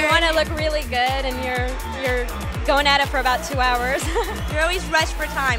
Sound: laughs

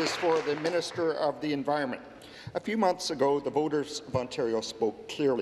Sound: applause

